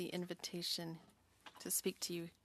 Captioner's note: speaking French